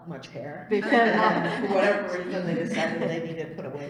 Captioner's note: laughter